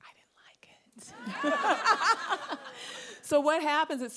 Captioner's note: audience laughing